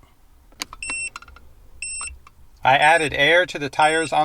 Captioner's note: device beeping